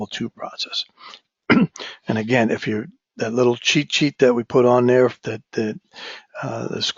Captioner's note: cough